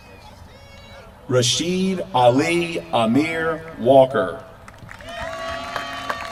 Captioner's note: applause